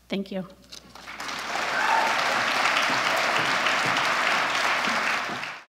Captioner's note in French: Applaudissements